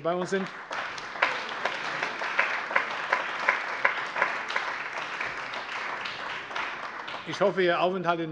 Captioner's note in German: Allgemeiner Beifall